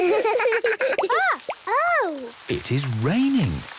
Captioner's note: water dripping